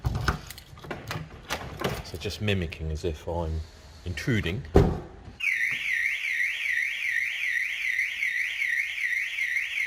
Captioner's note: alarm sounds